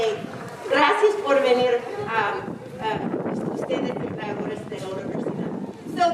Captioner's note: speaking in foreign language